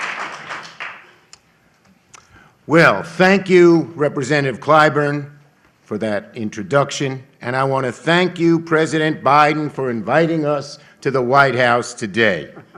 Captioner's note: applause